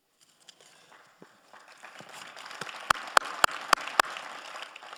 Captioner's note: all applauding